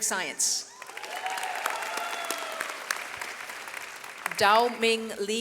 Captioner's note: audience applauds